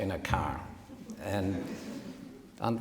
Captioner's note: audience titters